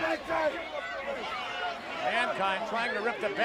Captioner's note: crowd chattering